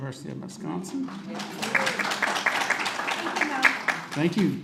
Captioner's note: audience claps